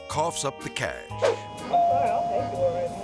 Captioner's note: air swoosh; doorbell ringing